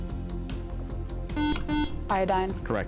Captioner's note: beeping